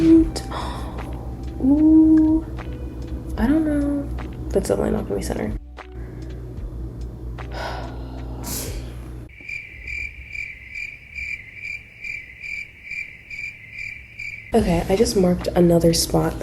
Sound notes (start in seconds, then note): 7.5 sigh; 9.2 cricket sound effect